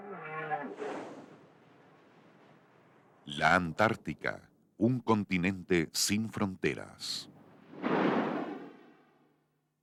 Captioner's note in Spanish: Canto de ballena